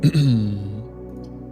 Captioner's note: clears throat